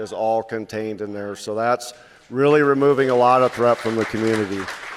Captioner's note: applause